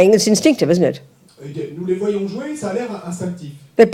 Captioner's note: French